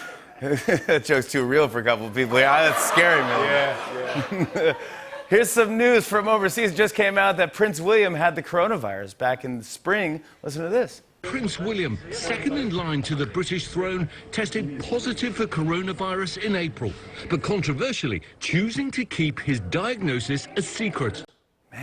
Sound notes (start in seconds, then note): 0.0 laughs; 2.0 laughter